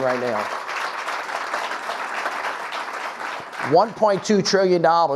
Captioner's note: audience clapping